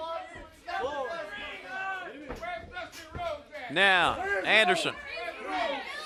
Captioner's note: crowd chatter